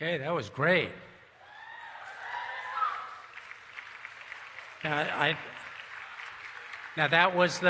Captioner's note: cheering and Applause